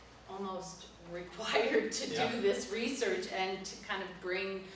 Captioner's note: laughs